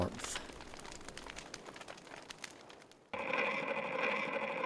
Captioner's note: sounds of a bonfire; sounds of a record player